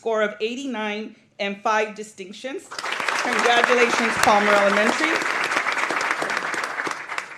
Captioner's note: applause